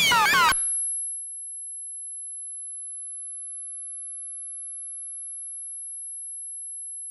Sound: ultrahigh pitched monotone sound

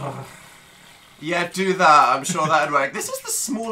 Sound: rattles uncomfortably; sarcastically

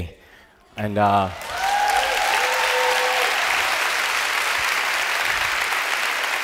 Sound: cheers and applause

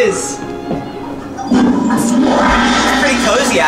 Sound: toilet flushing

